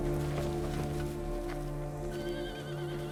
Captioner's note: horse neighing